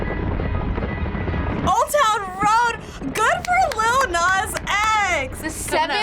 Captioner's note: claps